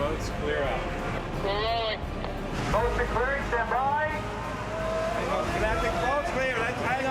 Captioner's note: man on radio